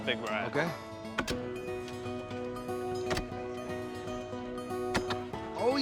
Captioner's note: saws clacking